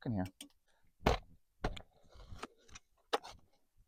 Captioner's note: digging in dirt sounds